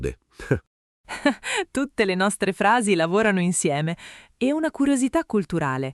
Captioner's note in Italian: Haha